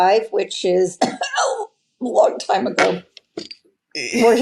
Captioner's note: coughs humorously